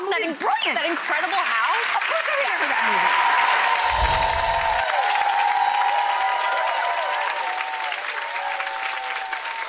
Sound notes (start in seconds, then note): 1.5 applause; 4.1 cheering